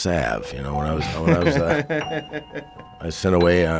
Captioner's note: laughing